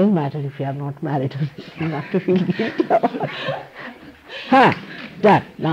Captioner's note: she laughs, laughter